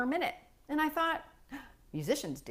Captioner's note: gasp